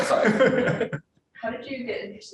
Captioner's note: laughs